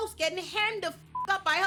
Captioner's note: beep